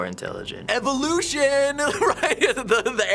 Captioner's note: singsong; chuckling